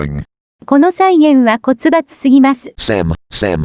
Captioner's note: reads it in Japanese